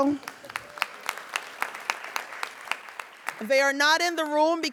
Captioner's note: audience applauding